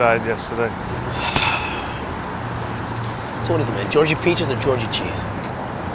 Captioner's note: sighs